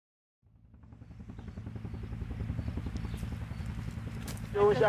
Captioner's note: helicopter whirring